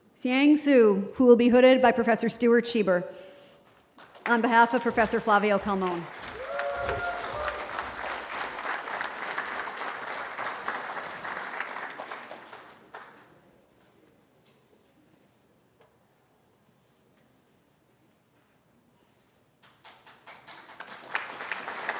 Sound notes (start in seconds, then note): 6.2 cheering